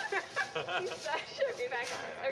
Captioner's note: chuckling